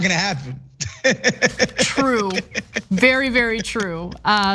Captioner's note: laugh